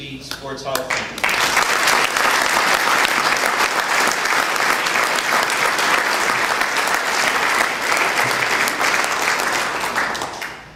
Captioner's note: applause